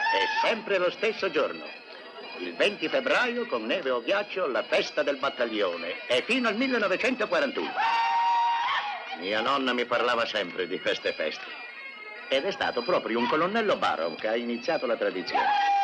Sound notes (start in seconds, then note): 0.0 whooping; 7.6 man hollers